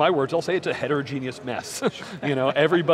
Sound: chuckles

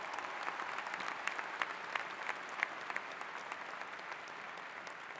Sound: applause

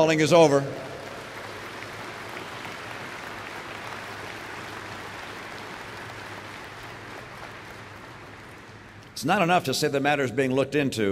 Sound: applause

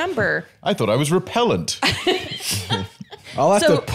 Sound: laughs

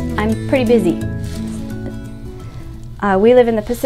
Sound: air whooshing

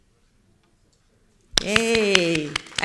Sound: everybody clapping

